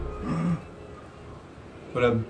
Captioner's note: gasps